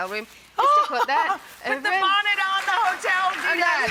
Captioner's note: laughs; crowd applause drowns